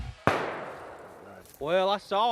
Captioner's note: gun shot